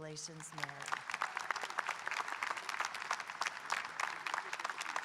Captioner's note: audience applauding